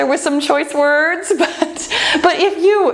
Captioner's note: laughs